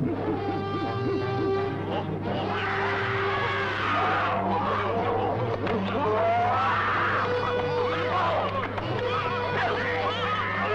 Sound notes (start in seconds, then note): 1.7 ape-like crying; 1.7 suspenseful orchestral music; 7.3 men shouting